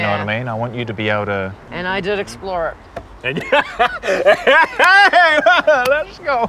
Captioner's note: laughing